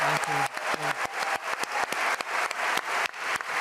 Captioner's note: applause